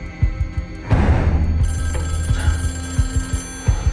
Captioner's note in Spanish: Suena el teléfono